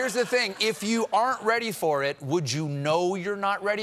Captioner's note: laughter